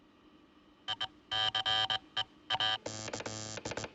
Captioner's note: Headset: Telegraph Click, Zumbido; Clique, Zumbido